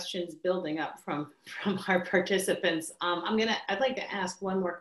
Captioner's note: laughs